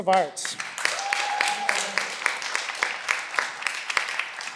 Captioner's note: cheering